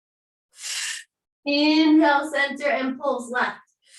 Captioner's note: exhaling